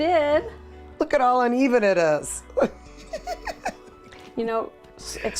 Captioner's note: laughs